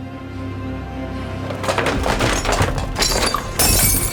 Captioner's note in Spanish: vidrio roto